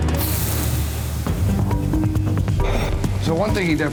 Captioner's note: grill sizzles